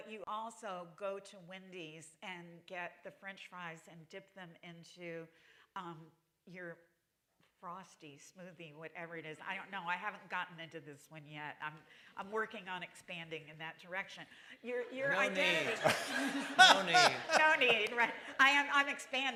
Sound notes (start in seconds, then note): 15.0 laughter